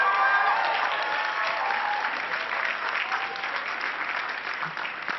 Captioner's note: cheering and clapping